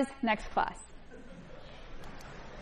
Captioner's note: laughter